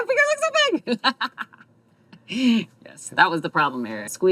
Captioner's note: laughs